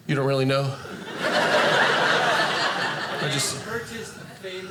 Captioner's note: audience laughing